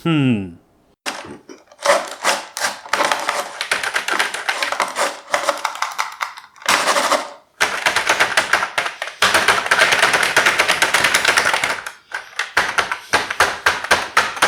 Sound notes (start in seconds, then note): 1.8 moves mouse and randomly knocks on keyboard